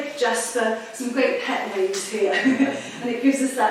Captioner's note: chuckles; audience chuckling